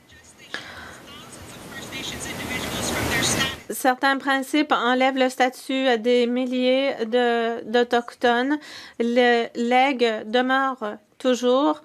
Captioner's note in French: voix de l'interprète